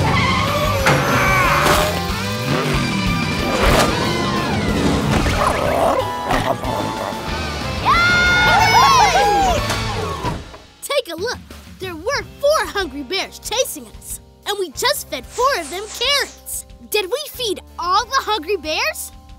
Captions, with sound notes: [grunting] [cheering] Take a look. There were four hungry bears chasing us and we just fed four of them carrots. Did we feed all the hungry bears?